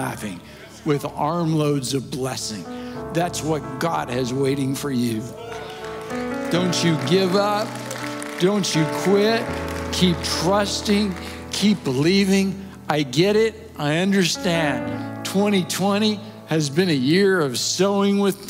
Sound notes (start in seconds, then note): 5.3 audience Cheers